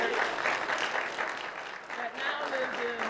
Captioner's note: applause